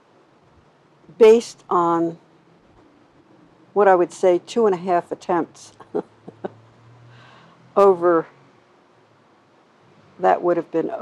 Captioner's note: chuckles